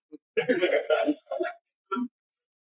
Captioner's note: laughter